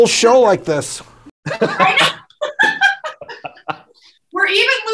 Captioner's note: everyone laughs